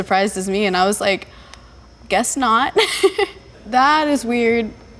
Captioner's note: laughs